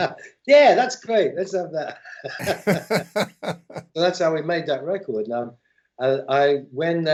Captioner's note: laughter